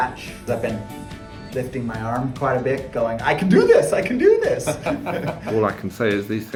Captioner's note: laughing